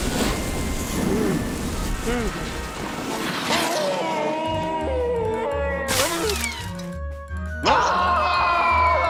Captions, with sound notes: WHA! OOH! (gasps) OHHHH! AAAH! OHHH!